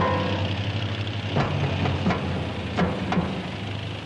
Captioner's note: tanks rumbling